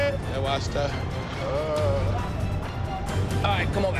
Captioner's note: victim moans